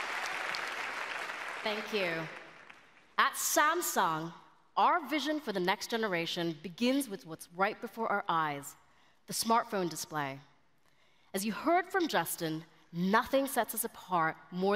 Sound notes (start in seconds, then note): 0.0 applause